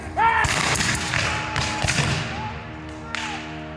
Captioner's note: guns fire